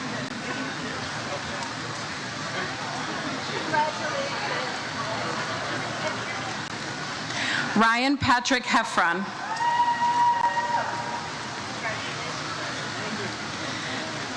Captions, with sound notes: - Congratulations. - Ryan Patrick Heffron. (audience member cheers) - Congratulations. - Thank you.